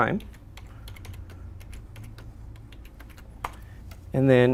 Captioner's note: keyboard clicking